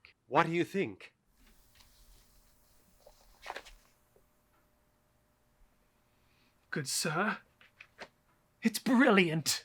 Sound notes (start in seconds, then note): 3.3 turning page